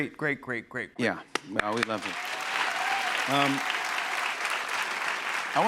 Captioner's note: cheers and applause